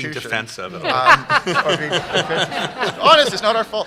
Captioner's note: laughter